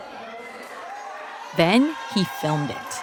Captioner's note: crowd cheering